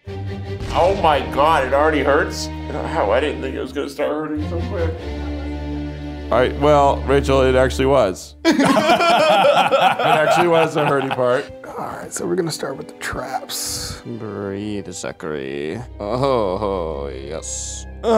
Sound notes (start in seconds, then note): 8.4 laughing